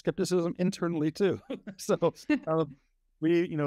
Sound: both laugh

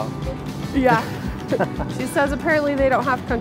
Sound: chuckling

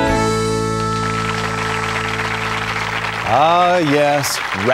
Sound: applause

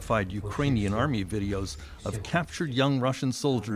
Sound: speaking Foreign Language

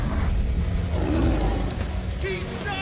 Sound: croc growling

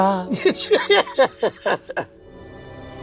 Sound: laughs; suspenseful music

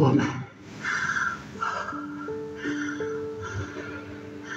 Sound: heavy breathing

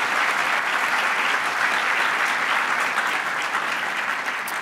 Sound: audience applauds

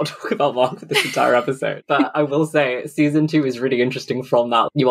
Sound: laughing

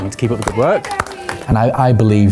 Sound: clapping

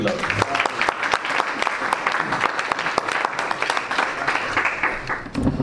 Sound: audience and panelists applaud

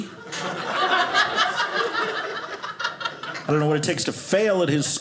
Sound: audience laughing

